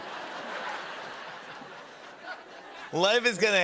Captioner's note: laughter